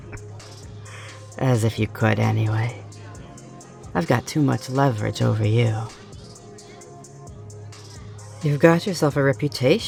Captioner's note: snicker